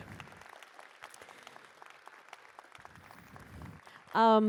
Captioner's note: applause